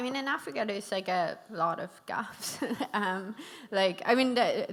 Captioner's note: chuckles